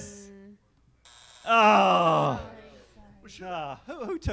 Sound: buzzer sounding

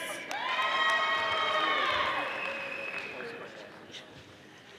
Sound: audience applauding

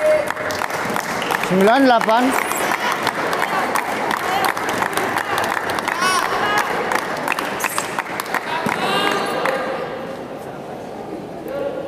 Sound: applause

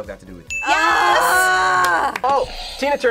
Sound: grunts

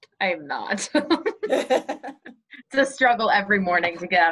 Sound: laughs

